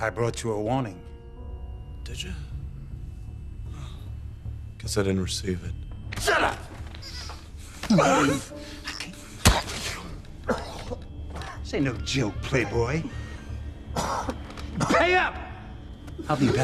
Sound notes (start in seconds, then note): 7.7 choking; 9.3 coughing